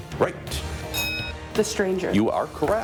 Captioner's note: bell rings; bell dings